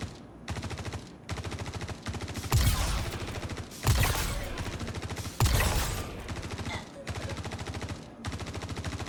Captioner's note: gun firing